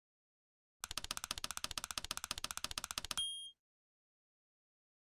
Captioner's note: typing sounds